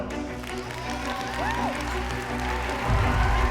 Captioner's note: applause and cheering